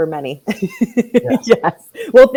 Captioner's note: laughs loudly